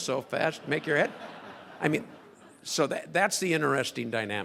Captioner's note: crowd laughing